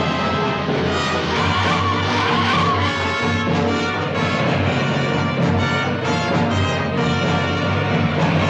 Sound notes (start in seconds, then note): 1.6 tires squealing